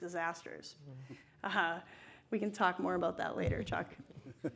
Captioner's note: laughs